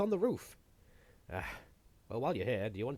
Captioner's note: sigh